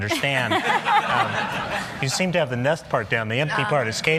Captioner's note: laughter